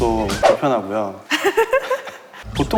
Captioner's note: hehehe